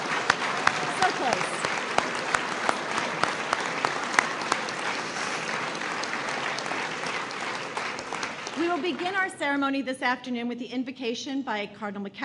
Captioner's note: applause